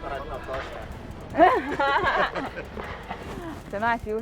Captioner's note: laughs